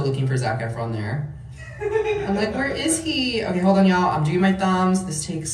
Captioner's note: laughing